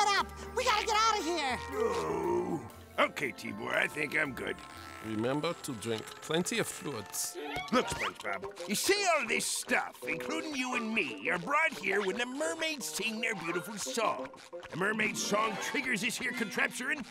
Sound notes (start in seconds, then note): 1.5 groans